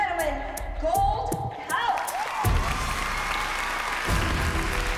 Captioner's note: cheering and applause